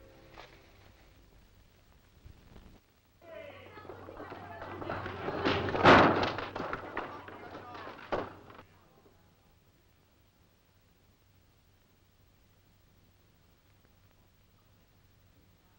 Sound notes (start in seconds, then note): 3.2 voices clamoring; 5.2 gate crashing